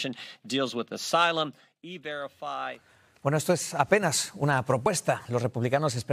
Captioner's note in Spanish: HABLA EN INGLéS